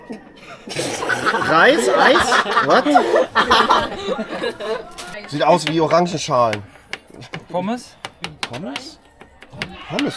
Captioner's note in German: gelächter